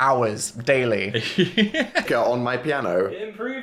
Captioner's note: Phil laughs